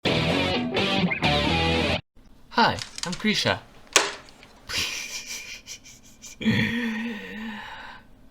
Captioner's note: constrained giggle